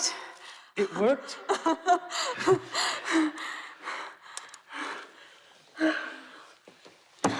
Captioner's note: Karen laughs